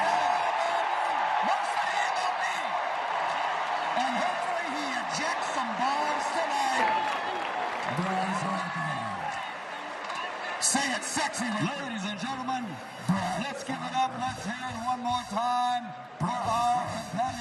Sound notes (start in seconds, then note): 3.2 cheering